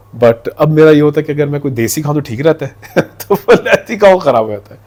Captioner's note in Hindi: हंसी